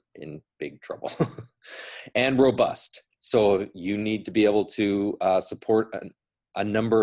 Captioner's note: laughs